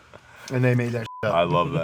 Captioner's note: beep